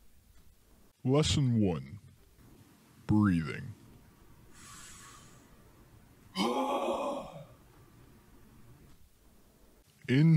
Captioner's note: exhales very loudly